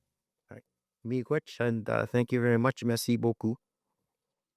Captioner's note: French language spoken